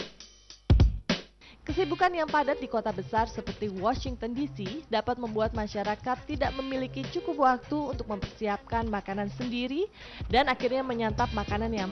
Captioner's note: non-english speech